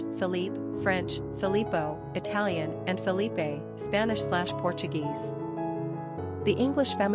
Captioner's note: Italian